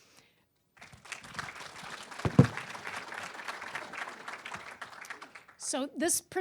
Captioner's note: applause